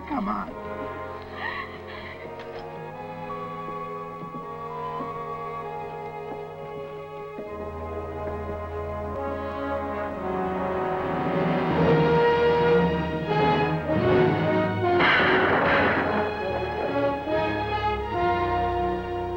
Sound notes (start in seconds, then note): 1.3 Ellen gasps; 12.0 dramatic orchestral music; 14.8 gun fires